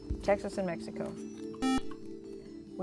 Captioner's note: buzzer